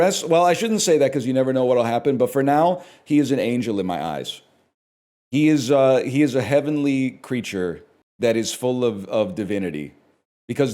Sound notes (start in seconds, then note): none